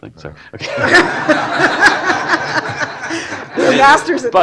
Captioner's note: laughter